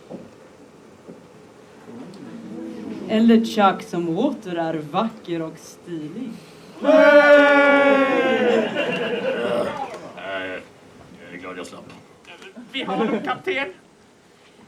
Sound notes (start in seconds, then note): 6.8 audience laughs; 6.8 crew cheers